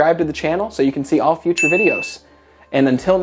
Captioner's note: bell dings